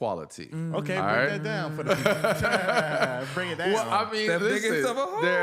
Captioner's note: laughter